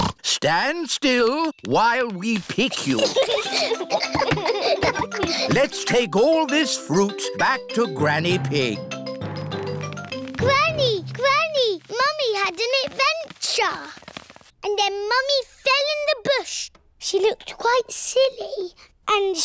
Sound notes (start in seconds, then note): 0.1 snorts; 2.7 children giggle